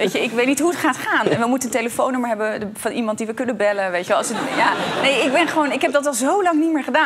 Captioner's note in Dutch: gelach